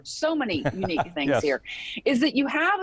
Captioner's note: laughing